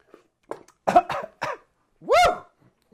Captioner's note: coughs